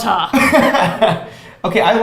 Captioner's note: laughs